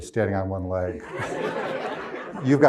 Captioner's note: crowd laughs